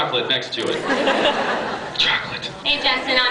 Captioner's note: laughs